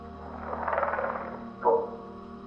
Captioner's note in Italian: Linguaggio alieno